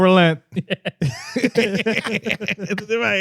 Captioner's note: laughing